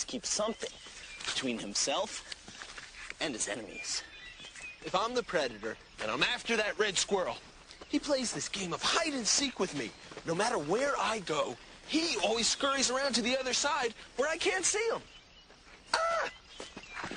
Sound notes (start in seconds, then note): 14.1 yells